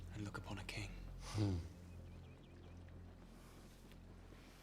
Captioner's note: chuckles